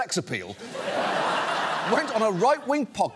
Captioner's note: laughter